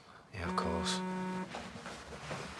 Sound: phone buzzes

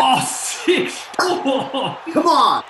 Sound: laughing

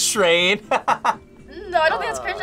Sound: laughs

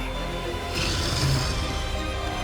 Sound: roars

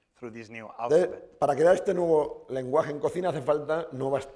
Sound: speaking spanish

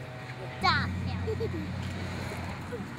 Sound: giggling

